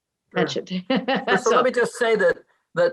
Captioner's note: laughs